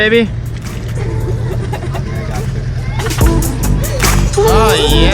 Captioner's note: female laughing